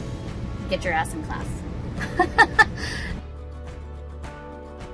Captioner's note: laughs